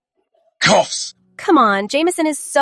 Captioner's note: coughs